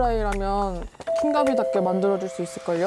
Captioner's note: basically in love sound effect